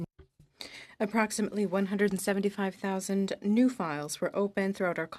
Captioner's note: speaking French